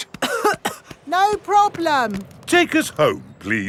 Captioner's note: coughing